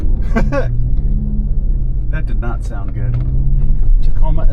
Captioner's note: laughing